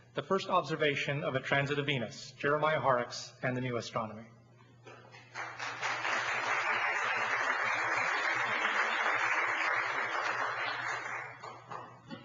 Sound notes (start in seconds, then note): 5.1 applause